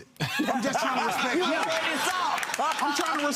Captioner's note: audience laughs